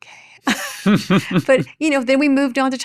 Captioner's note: chuckles